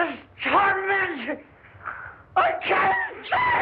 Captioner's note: screaming